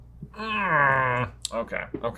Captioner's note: grunting